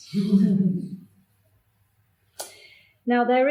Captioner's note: audience laughs